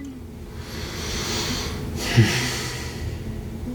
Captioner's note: deep Breath